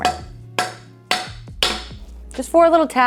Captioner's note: mallet thudding